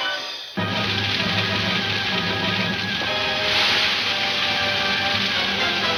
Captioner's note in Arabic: النار تشتعل بقوة